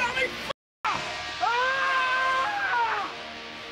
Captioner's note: dog screams